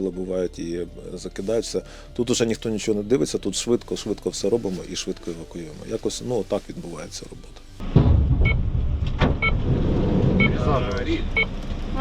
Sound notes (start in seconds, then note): 8.2 monitors beeping